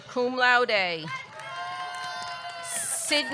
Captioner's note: audience cheering